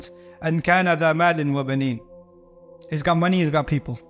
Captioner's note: Arabic